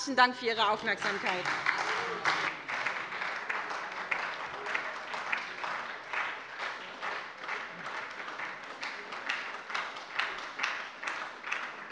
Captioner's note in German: Beifall bei der SPD